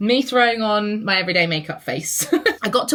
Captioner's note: laughs